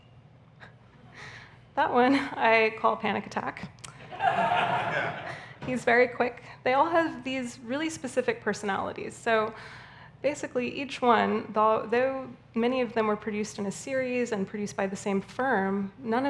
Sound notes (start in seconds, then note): 4.0 audience laughing